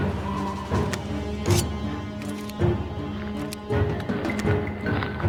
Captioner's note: dramatic music; blade scrapes; dramatic music